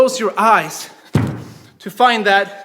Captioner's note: snapping